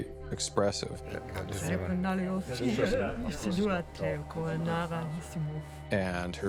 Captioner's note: speaking alien language